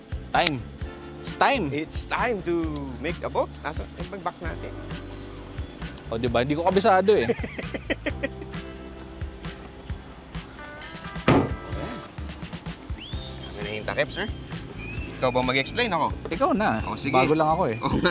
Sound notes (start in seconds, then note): 7.1 laughs; 11.2 trunk thuds